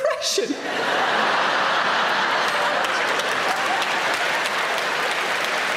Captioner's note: audience applauding